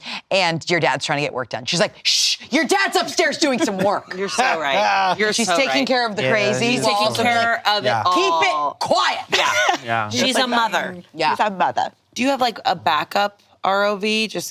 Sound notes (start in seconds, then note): 9.3 laughs